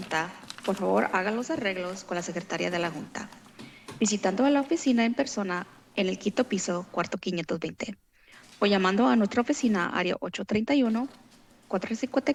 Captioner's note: foreign language